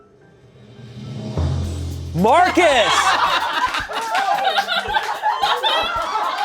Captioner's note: strong laughter